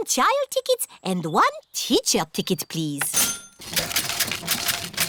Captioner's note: cash register dings